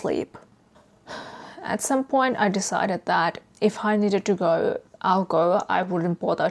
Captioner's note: sighs